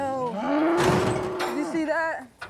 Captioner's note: buffalo bawling; body slamming